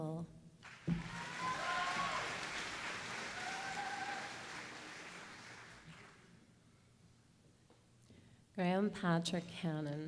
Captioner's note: applause